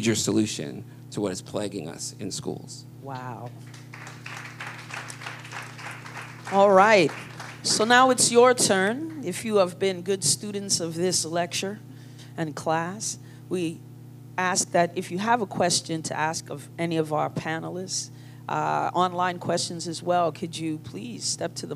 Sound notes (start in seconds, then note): 6.8 applause